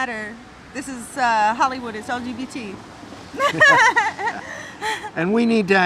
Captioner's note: laughing